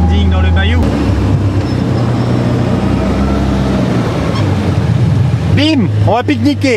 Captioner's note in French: bruits de voiture